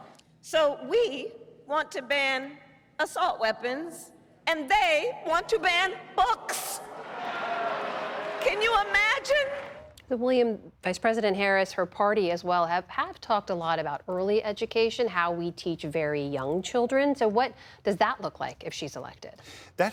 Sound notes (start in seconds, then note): 8.4 booing